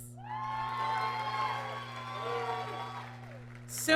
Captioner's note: applause